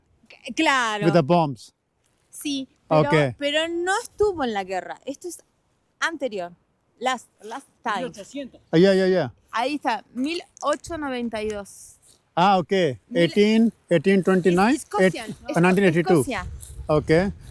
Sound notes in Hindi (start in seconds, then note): 3.4 स्पेनिश में बोलते हुए